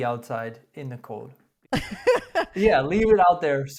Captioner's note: laughs